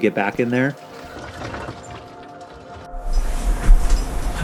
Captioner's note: rocks clatter; water rushing